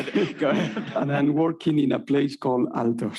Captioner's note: laughing